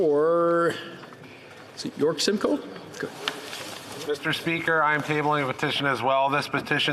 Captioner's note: speaking French